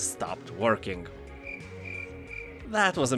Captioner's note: crickets chirping